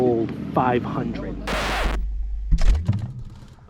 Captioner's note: record Screech